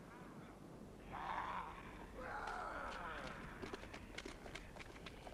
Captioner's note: raiders snarling